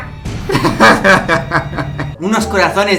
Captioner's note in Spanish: Risa malvada